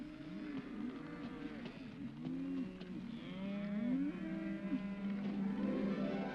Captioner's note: cattle moo; soft dramatic music